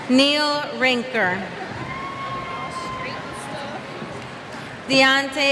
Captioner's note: cheers